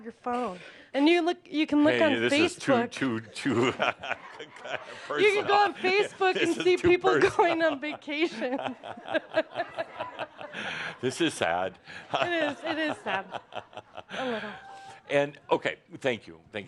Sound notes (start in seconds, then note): 4.2 laughter; 9.2 laughter; 13.8 Adamus chuckles